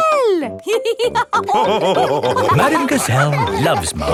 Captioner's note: all laughing